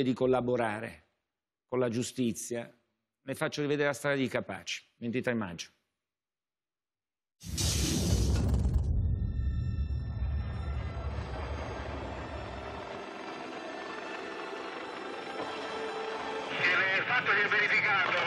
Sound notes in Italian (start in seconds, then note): 5.6 Applauso